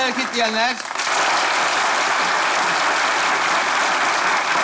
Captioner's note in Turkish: alkış sesleri